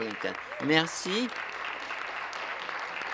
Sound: applause

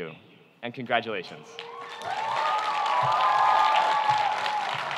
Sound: cheering

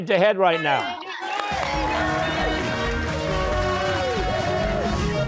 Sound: cheers and applause

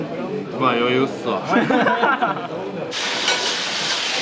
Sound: laughter

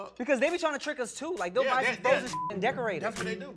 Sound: beep

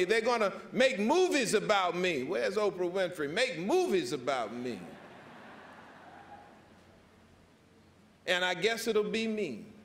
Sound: laughter

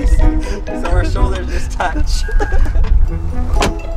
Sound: laughing

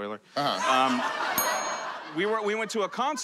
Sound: laughter

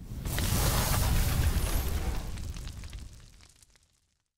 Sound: fire burning

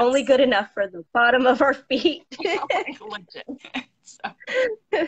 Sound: laughing; laughs

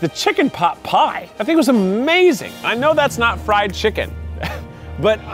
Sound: laugh

